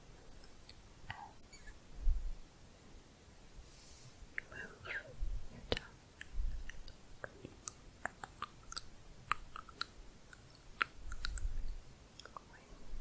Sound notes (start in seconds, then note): 6.9 tongue clicking and bubbling